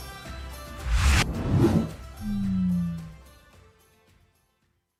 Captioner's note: lively upbeat music; logo whooshes